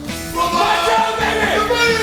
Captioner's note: shouting